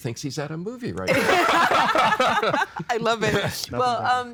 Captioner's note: all laughing